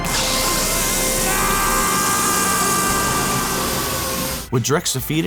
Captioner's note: screaming